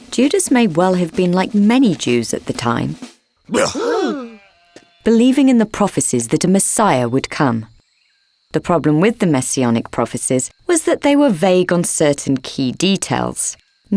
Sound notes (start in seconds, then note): 3.5 shepherds gasping